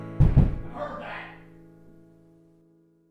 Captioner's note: more banging on wall